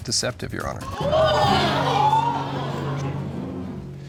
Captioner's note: audience gasps